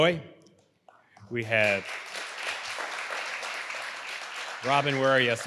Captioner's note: audience applauding